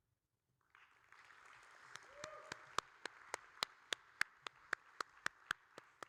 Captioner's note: audience and applauding